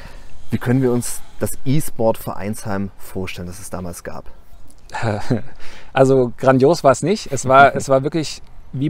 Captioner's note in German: lacht